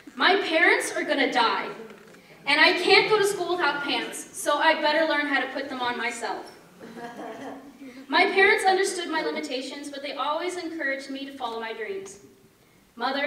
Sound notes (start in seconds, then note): 6.8 laughter